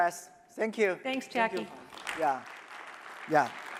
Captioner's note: applause